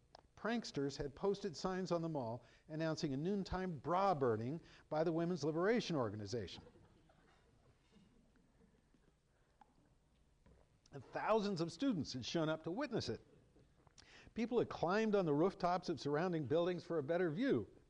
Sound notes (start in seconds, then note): 6.6 chuckling